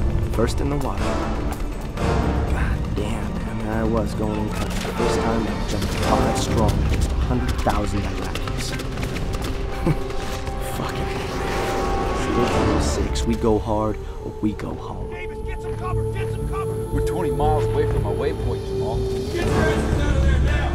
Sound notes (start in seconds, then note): 8.4 guns firing; 9.6 chuckles